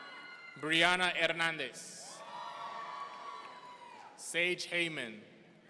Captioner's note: audience cheering; audience cheering; audience cheering